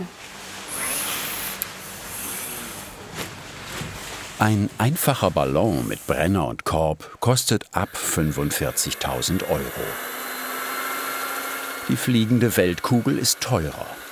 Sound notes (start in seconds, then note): 9.9 whirring